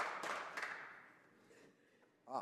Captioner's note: speaking French